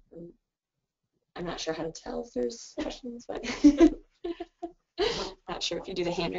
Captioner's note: laughs